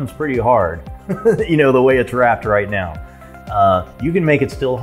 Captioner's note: laughter